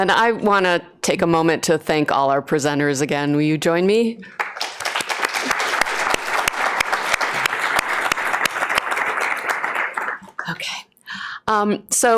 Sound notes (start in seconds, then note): 4.3 applause